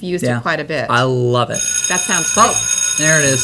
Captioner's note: bell ringing